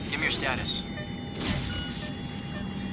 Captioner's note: alarm; bell